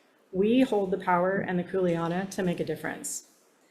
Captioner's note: speaks Hawaiian